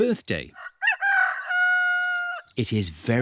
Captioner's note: roster crows